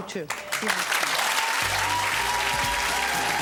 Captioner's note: audience cheering